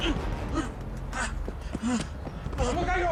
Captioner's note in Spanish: Respiración agitada